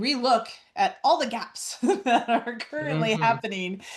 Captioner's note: laughs